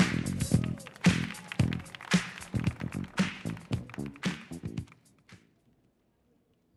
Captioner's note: audience cheering; audience applauding